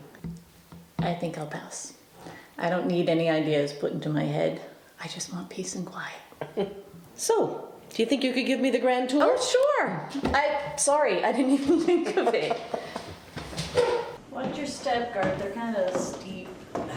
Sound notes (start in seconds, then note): 6.4 laughs